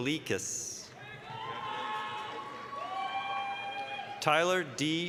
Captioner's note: applause, cheering